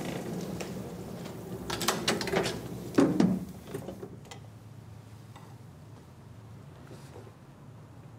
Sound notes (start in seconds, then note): 1.1 clacking, rumbling